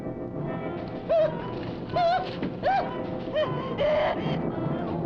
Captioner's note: Lottie screaming